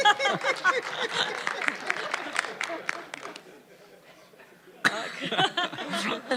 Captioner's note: laughter